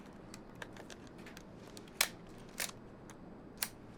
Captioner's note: shutter clicks